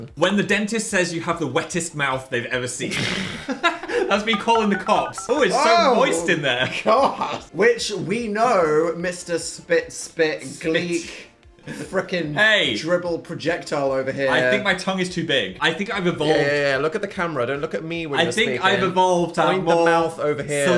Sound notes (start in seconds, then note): 3.0 both laughing